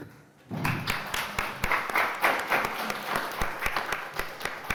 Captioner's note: audience applauding